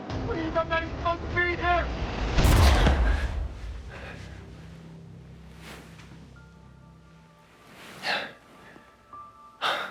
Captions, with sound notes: - Please, I'm not even supposed to be here! (gun fires)